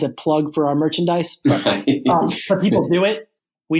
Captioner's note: laughs